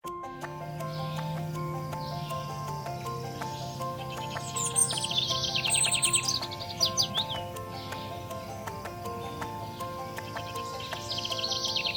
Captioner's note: birds chirping